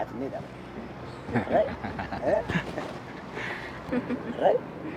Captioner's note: laughs